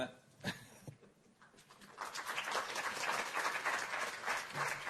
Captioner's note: applause